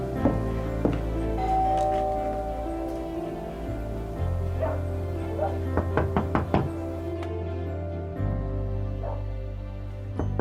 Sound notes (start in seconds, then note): 1.3 door bell; 4.6 dog barking; 5.7 knocking on door; 10.1 knocking on door